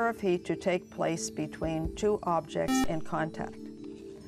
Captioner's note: buzzer